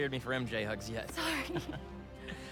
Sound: laughs

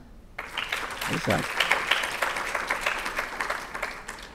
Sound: audience clapping

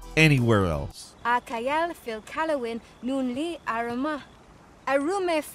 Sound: character speaking Elvish

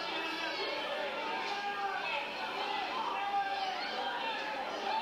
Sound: people screaming

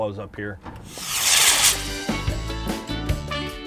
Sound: loud whooshing; upbeat reggae music

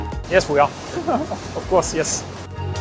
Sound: laughs

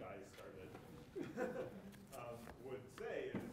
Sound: audience chuckles

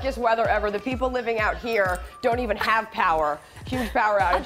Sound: laughter

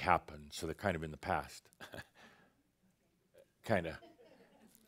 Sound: Adamus chuckles

